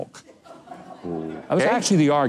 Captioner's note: audience laughs